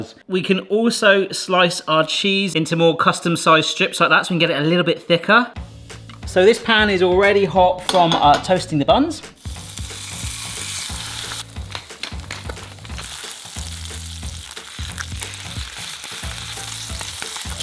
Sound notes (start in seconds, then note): 9.5 light playful music; 9.5 patty sizzles; 11.7 grinder clicking; 13.1 patty continues sizzling